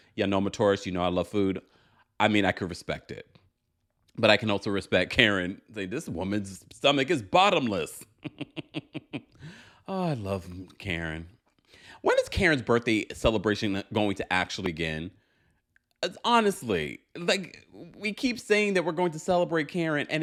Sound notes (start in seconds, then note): 7.6 chuckling